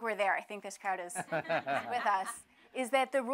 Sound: laughter

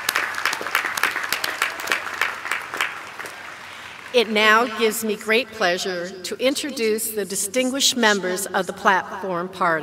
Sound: applause

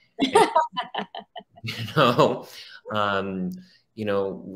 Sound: laughs

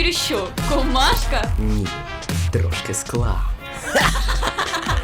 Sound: coughs and spits; laughs

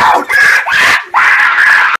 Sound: loud scream; slightly louder scream

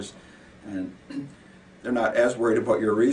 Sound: clearing throat

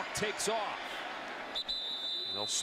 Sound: whistle

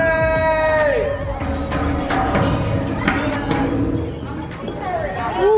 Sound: metal clanking

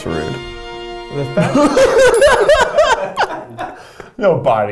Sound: laughing; bell rings

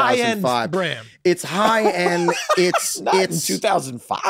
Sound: laughs

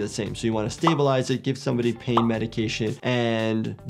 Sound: graphic pops

